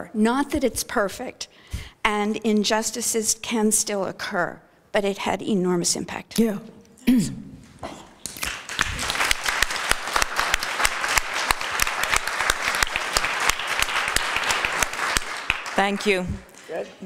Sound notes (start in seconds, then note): 8.3 applause